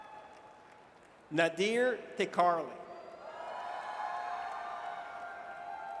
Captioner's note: audience cheers